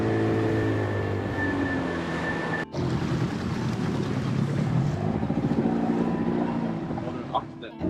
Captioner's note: outboard engine